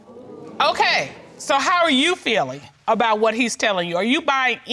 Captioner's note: audience exclaiming